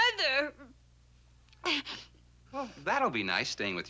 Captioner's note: sniffles